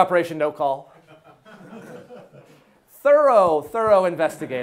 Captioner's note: class laughing